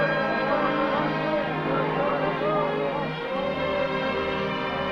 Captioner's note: men chanting